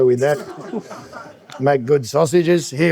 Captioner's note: laughing